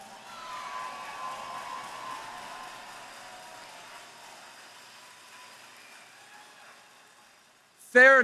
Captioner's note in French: Acclamations et applaudissements